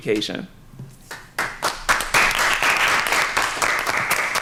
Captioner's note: applause